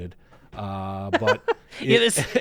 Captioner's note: laughs